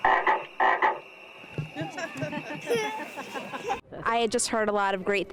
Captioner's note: laughter